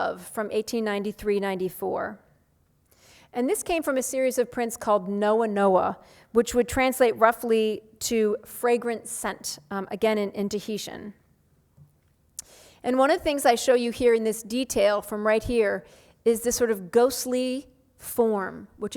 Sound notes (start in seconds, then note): none